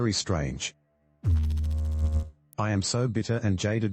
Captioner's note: electrical noise